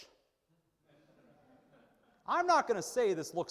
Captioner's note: audience laughing